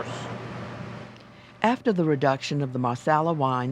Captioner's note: voiceover